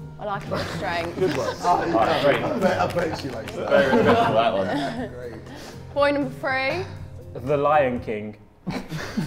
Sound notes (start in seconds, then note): 2.6 Simon clapping; 4.0 Sidemen laugh